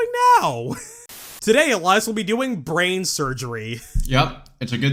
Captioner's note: static